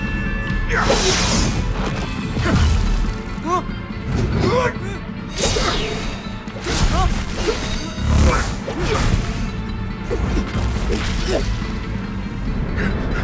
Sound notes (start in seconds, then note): 0.1 rocks thudding on ground; 3.5 angry grunt; 4.6 Amato gasping